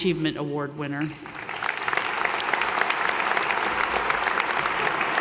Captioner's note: audience applause